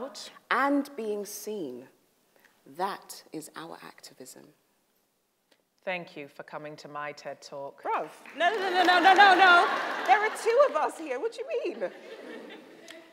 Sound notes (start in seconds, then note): 8.2 audience starts clapping; 11.6 audience laughs